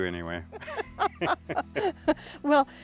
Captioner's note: laugh